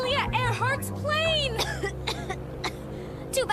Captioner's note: coughs